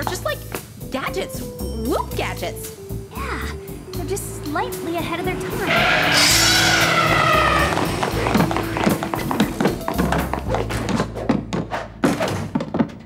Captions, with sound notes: All these '70s gadgets are just like... gadgets. WOOHP gadgets. Yeah, they're just slightly ahead of their time... [tyres screeching]